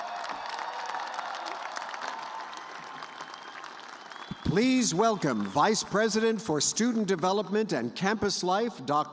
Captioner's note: cheers and applause